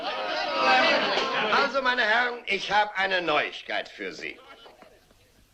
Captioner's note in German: lacht